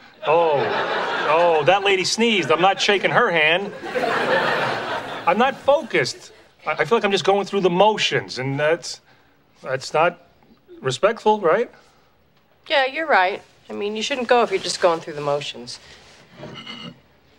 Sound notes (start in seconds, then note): 4.3 audience laughing